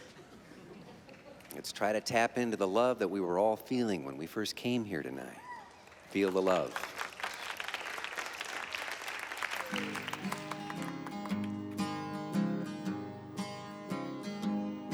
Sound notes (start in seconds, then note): 6.7 light clapping; 9.7 guitar strumming